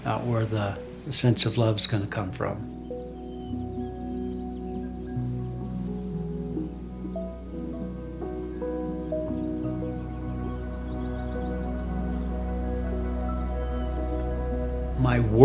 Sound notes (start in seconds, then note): 3.6 birds chirping; 3.6 solemn music